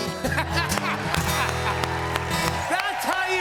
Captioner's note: cheers and applause